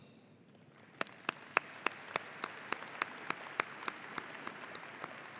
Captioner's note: audience applauding